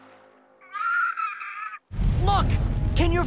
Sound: squawking

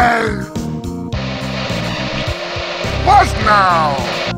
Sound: spraying

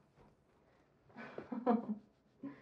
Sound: chuckles

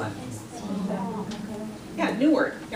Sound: voiceover

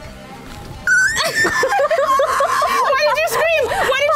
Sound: screams

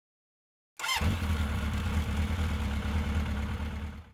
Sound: engine starts

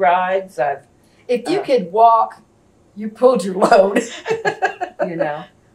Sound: laughs

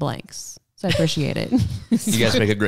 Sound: all laugh

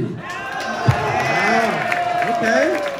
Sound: crowd cheers

